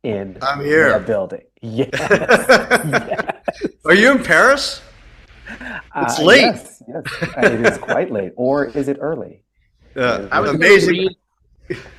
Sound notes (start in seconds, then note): 7.0 laughter; 11.6 laughter